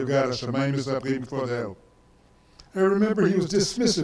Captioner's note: speaks in foreign language